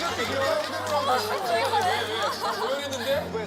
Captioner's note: laughter